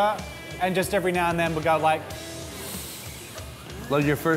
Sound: sniffing

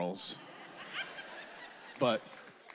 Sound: audience laughs

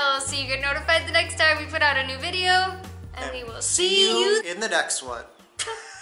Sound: laughter

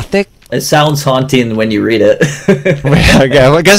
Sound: laughs

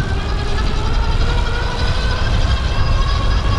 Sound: motor running

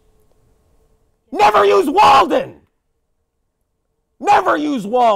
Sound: shouting

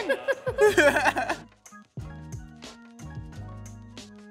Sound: laughter

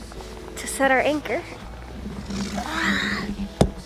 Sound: sighing

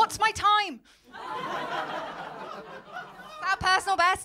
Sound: laughter

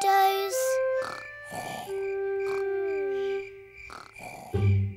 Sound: george snoring

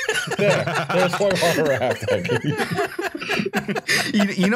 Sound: laughter

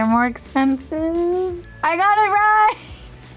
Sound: bell dinging

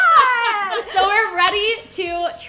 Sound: laughing

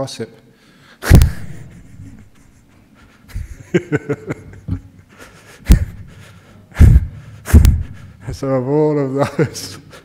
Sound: Ajahn laughs

